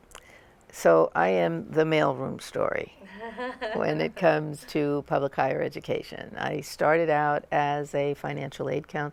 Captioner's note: laughter